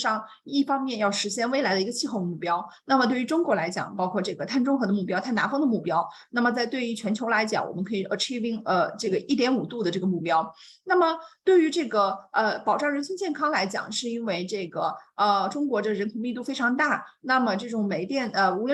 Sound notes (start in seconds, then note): 11.0 continues speaking in Mandarin